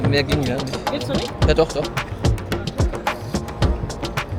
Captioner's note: speaking German